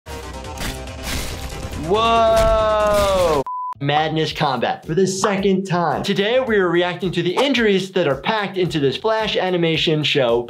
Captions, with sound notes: (upbeat music) (weapon slashing) - Whoa! (beep beeping) Madness Combat. For the second time. Today, we're reacting to the injuries that are packed into this flash animation show